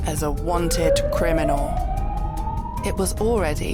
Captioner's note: siren